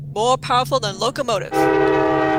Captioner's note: train whistle blows, locomotive rumbles